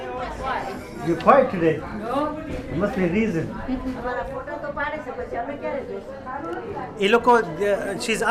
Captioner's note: woman speaks off camera in Gujarati